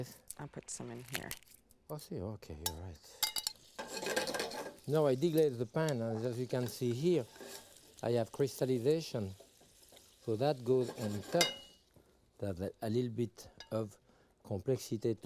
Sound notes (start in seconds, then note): 4.2 pan shuffling; 11.3 spoon tapping